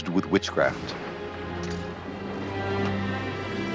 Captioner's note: thunder